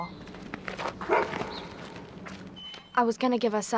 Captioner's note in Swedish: hund skäller